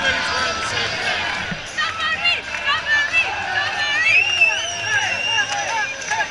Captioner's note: chants